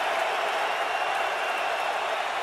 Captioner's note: crowd cheering